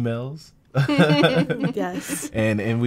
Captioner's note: laughing